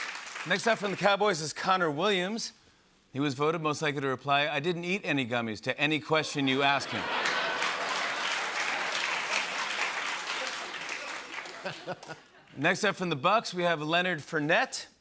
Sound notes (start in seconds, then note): 6.9 cheers and applause; 10.0 laughter